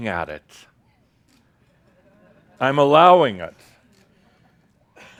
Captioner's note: a few chuckles